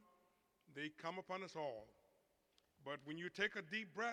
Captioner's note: none